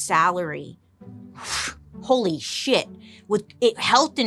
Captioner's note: exhales